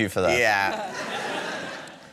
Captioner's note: laughter